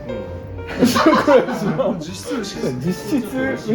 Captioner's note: laughs